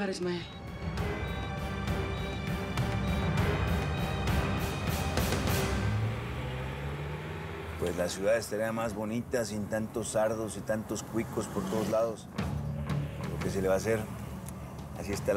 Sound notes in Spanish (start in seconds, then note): 6.3 Ruido del vehículo